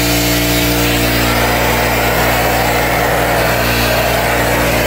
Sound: spraying

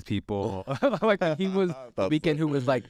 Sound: laughs

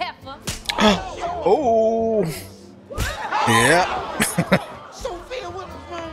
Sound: chuckling

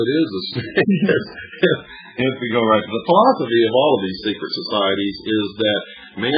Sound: laughs

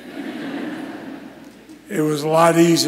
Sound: scholars laugh

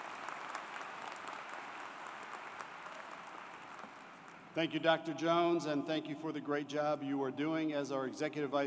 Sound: applause

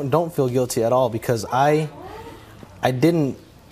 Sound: audience gasps

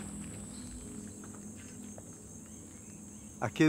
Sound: grasshopper chirping; speaking in foreign language

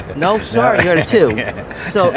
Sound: laughing

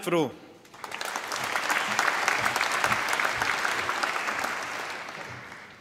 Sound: applause

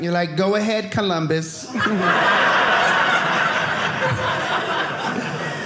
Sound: audience laughing

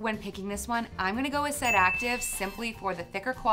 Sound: bell rings

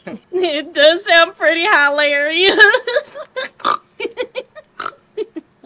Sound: laughs

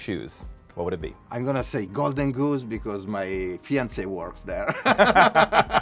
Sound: both laughing

